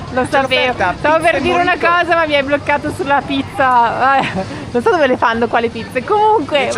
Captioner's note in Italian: risate